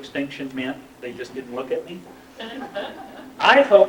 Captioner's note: laughter